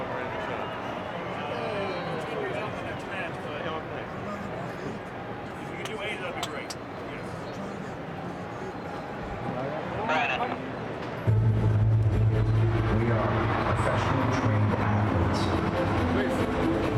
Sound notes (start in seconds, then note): 9.4 radio chattering; 11.4 intense music